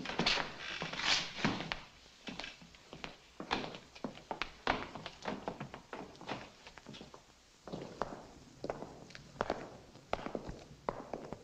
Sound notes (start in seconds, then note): none